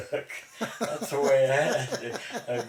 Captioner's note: both laughing